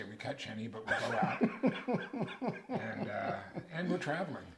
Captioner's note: laughs